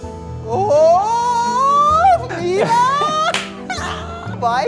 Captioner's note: Laughing